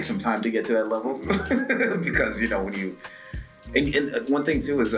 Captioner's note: laugh